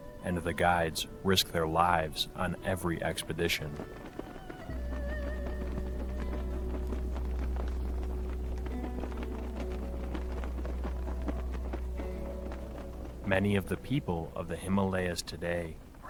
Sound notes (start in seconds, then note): 4.7 flags flapping; 4.7 gentle upbeat music